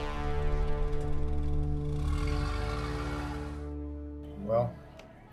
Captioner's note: vehicle engine whirring; tense music